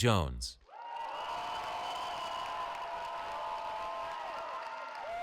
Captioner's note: cheering